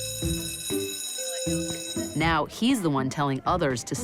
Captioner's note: school bell rings